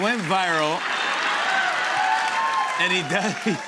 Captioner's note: laughter and applause; laughing